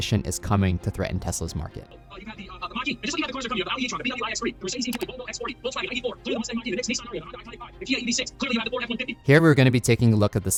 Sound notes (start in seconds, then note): 2.2 businessman speaking swiftly; 4.8 cursor clicking; 6.7 graphics popping